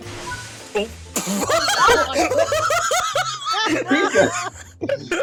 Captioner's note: laughter